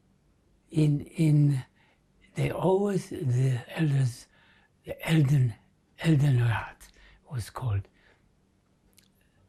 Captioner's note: german